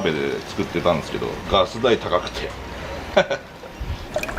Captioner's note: laughter